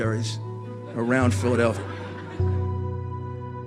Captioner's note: audience laughter